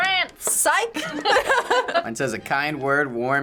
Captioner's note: laughs